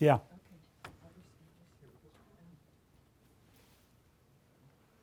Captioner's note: speaking softly